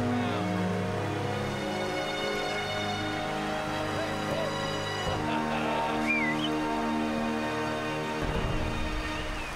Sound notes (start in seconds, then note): 6.0 whistles